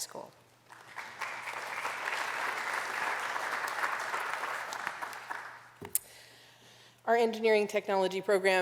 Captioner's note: applause